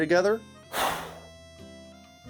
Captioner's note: exhales